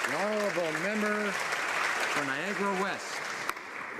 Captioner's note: applause